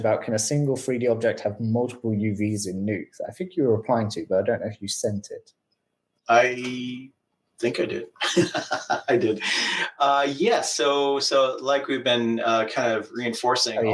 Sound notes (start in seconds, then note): 8.1 laughs